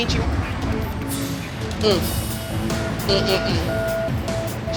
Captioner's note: hums disapprovingly